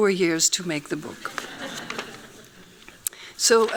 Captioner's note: laughing